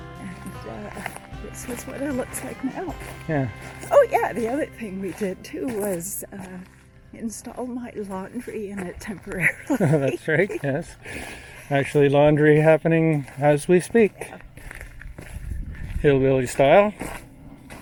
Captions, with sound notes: And, this is what it looks like now. Yeah. Oh yeah! The other thing we did too was install my laundry in it temporarily. [laughing] - That's right, yes. Actually laundry happening as we speak. Hillbilly style!